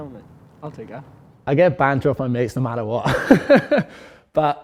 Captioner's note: laughs